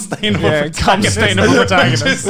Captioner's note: laughs